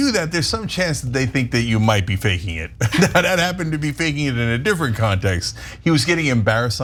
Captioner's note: laugh